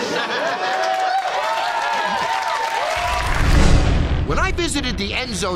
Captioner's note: laughter and applause